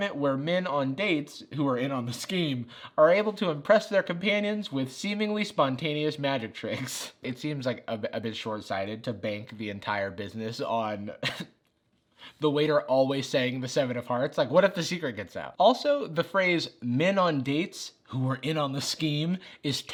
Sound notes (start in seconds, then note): 11.3 chuckles